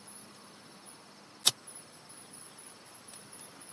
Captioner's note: crickets chirping